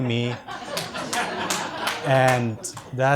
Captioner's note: audience laughs